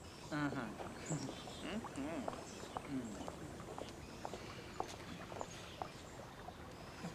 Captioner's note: water trickling; birds chirping